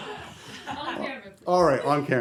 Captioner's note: laughter